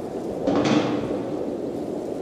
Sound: clattering

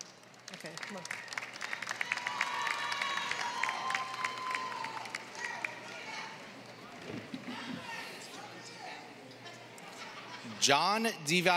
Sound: applause

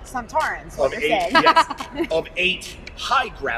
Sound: laughter

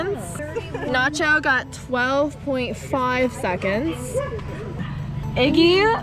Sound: dog barking

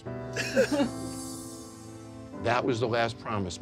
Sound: sobs

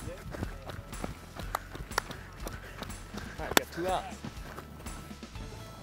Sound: running

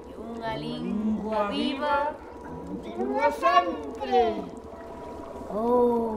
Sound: distorted voices in unison

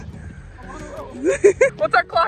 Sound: intense breathing

